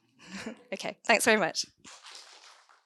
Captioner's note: audience applauds